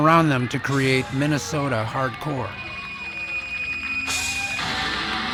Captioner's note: reverb squealing